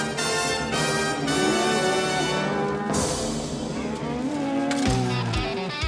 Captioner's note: mooing